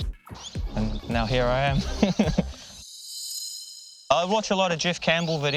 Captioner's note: laughs